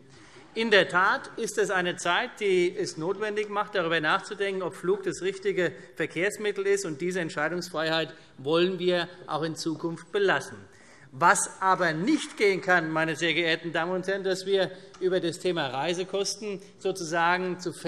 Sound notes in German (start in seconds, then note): 11.0 Vereinzelter Beifall CDU